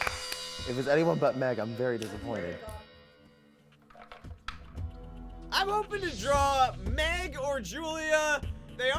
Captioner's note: applause